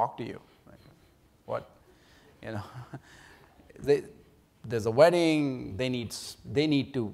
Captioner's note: laughs